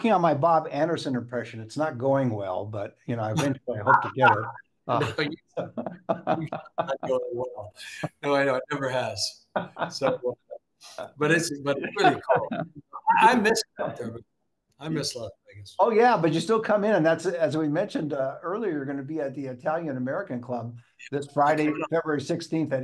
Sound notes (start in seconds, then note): 3.3 laughs; 6.4 laughs